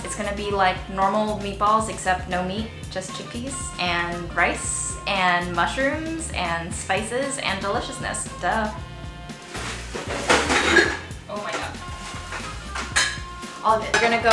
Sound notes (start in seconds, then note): 9.4 clattering sounds